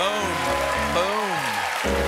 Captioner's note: cheers and applause; piano riff